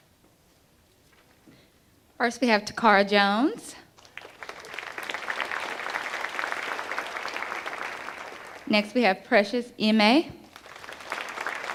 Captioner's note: applause